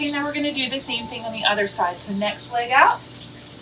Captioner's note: bird chirps